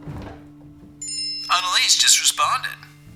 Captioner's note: phone jingle